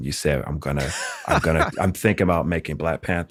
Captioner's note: laughter